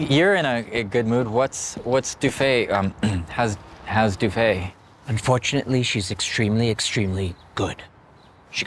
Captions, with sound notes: You--you're in a good mood. What's--what's Douffe, um-- *clears throat* How's-- How's Douffe? Unfortunately, she's extremely, extremely good.